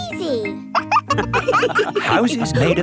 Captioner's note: wolves laughing